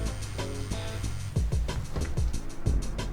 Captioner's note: cell phone buzzes